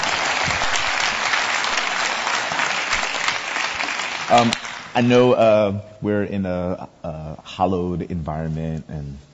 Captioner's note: audience applause